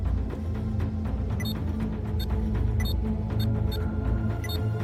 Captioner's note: console beeps